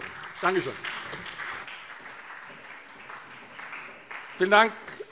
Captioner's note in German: Beifall SPD und CDU